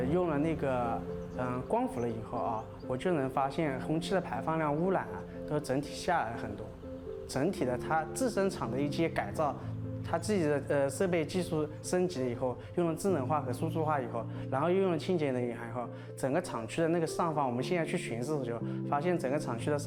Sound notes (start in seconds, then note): 2.8 speaking Chinese